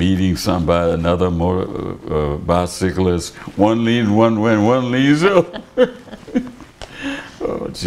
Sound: laughter

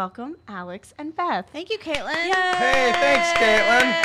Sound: applauding

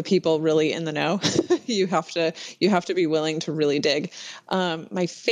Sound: laughs

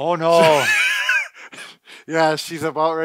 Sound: laughing

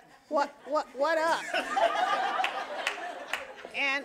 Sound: audience laughing and applauding

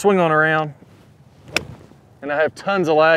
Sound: golf club clacks

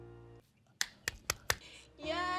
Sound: Trixie applauds

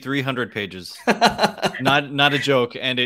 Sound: laughs

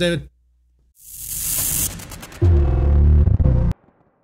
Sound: electric sound

